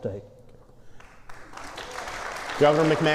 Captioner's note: applause